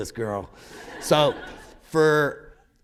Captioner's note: laughter